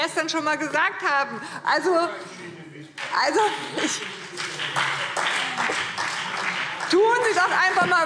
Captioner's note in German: Beifall BÜNDNIS 90/DIE GRÜNEN und CDU